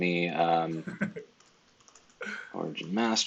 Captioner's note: laughs